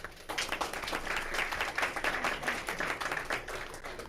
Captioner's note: crowd applauding